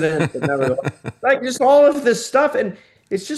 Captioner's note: laughing